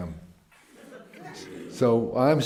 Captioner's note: laughter